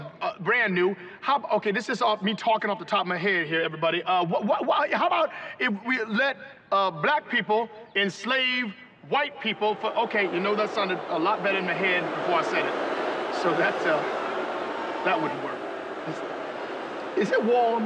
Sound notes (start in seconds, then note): 8.4 crowd boos; 12.0 booing continues